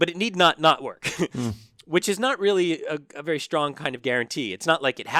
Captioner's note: laugh